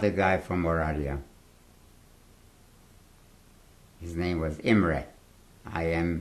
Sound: pauses for 3 seconds

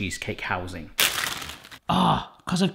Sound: wrapping crinkling

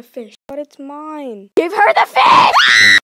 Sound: Bigtail and Pike screaming; Pike screaming

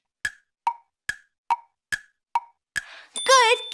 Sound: clock ticking

